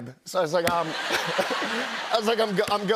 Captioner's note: laughter